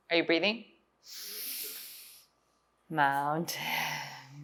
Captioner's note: inhales